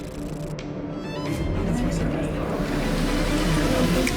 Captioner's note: orchestral music; voices whispering; tense music